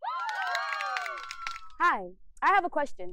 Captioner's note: crowd cheering